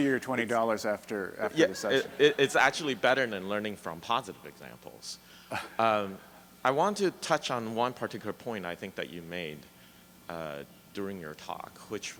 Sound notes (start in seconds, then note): 2.6 voiceover; 5.5 chuckles